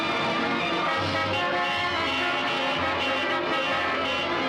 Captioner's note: car horns honking